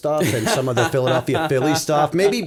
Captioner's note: chuckle